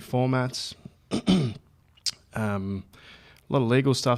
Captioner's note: clears throat